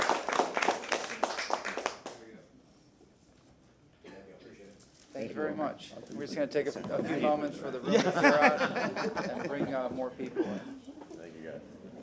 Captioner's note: applause